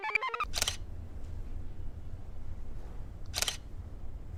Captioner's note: computer chirps; shutter snaps